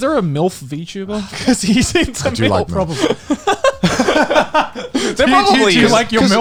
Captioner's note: laughs